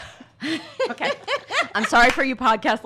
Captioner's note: laughs